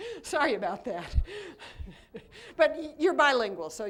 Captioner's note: laughter